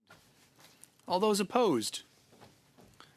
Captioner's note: speaking French